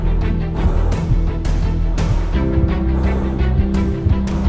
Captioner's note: loud breathing through mask